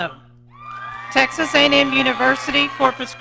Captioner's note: audience cheering